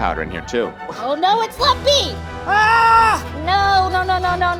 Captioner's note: yells